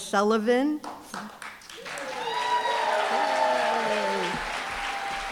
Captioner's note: applause, cheering